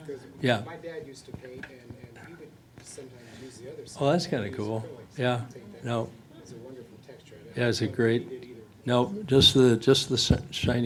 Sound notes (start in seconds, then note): 0.3 voiceover; 5.4 voiceover